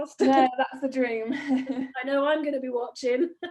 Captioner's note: laughs